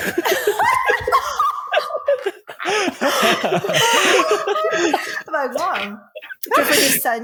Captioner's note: laughter